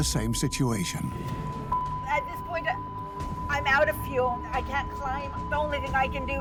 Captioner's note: beeping